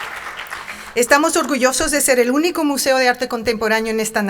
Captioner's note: speaking in Spanish